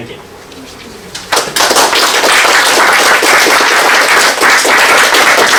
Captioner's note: applause